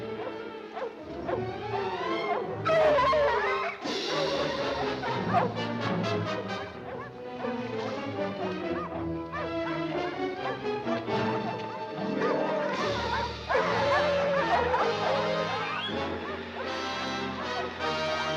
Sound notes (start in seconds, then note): 0.3 dogs barking; 0.3 dramatic music continues; 10.1 dogs barking continues; 10.1 dramatic music continues